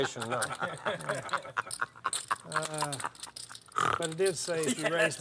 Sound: laugh; snort

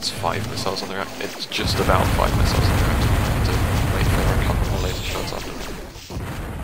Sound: +constant shooting

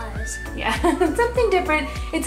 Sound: laughs

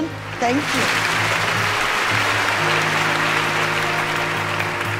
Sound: audience applauding

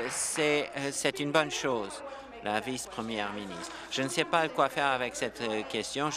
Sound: applause

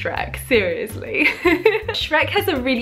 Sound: giggle

